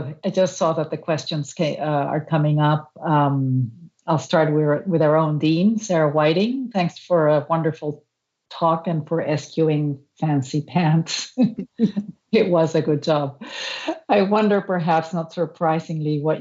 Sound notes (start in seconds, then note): 11.0 laughter